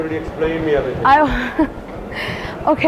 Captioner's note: laughs